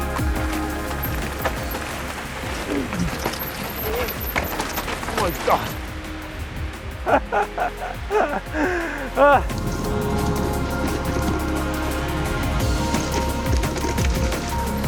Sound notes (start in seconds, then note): 7.0 laughing; 9.6 upbeat music